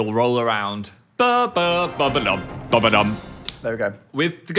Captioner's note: imitating orchestra music